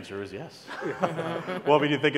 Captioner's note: laugh